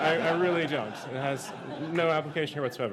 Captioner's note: laughter